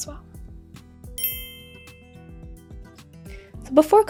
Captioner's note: clinks